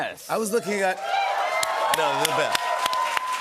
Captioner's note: cheers and applause